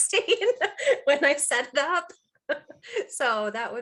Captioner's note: chuckling